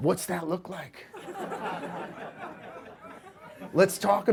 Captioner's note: audience laughs